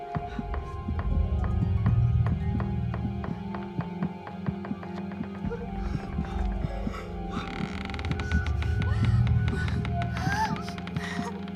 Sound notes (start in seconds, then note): 1.2 wood cracking; 5.1 tense music